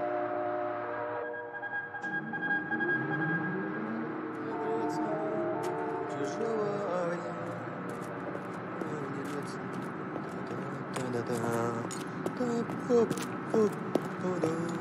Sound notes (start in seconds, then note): 7.5 humming